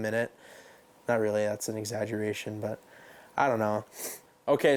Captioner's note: sniffs